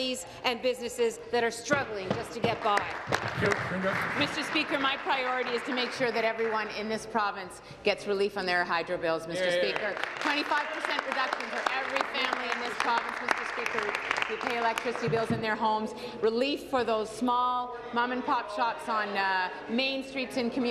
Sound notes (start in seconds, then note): 14.2 applause